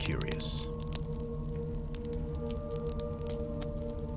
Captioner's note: fire crackles